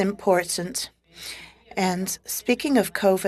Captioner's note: speaking French